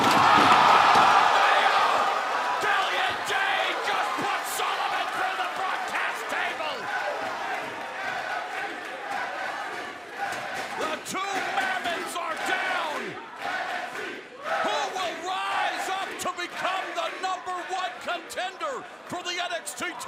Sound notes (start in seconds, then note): 0.1 cheers and applause; 7.9 fans chanting